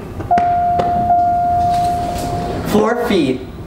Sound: elevator bell

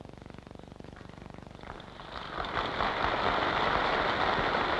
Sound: applause

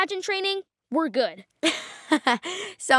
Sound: laughing

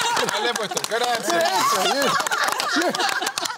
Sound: laughter

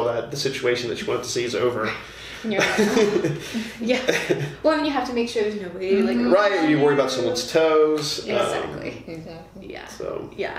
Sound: laughter; sigh

